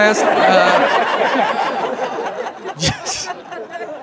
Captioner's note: crowd laughs